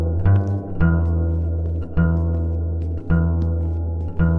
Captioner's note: footsteps clack